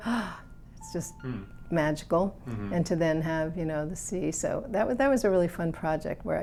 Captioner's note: gasps